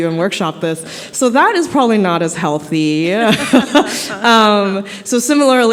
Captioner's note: laughter